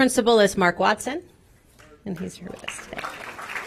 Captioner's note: applause